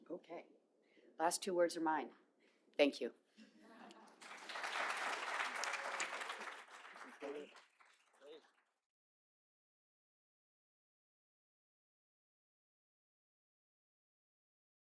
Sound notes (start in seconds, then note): 3.4 laughter; 4.1 applause